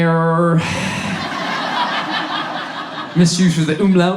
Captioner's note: audience laughs